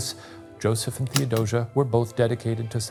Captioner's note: projector clicking